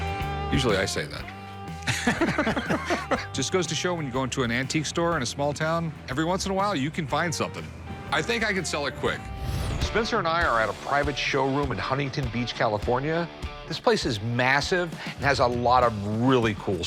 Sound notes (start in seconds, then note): 1.8 laughter